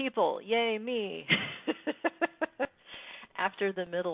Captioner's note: laughs